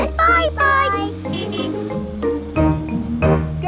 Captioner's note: horn honking